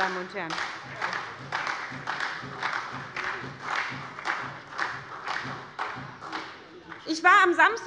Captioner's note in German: Beifall bei der SPD - Vizepräsident Frank Lortz übernimmt den Vorsitz